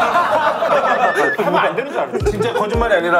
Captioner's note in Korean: 깨갱